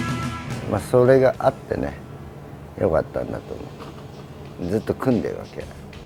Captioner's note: speaking in foreign language